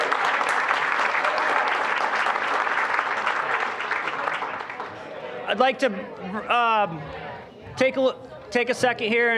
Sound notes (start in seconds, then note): 0.0 applause; 3.6 general chatter